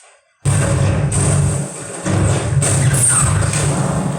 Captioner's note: bombs exploding